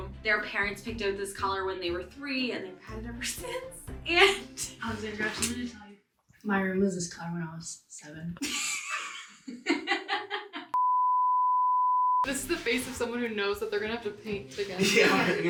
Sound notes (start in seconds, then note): 10.3 laughing; 10.8 tone sounding